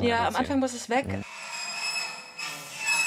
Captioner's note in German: Schleifendes Geräusch